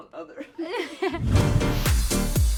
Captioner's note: laughs; electronic pop music